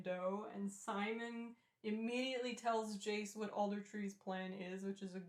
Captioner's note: none